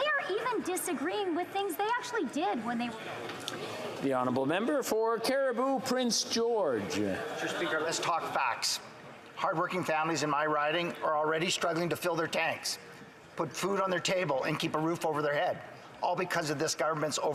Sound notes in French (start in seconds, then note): 14.1 voix de l'interprète